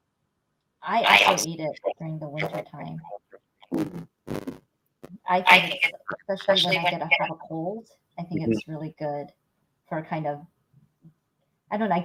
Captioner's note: audio distorts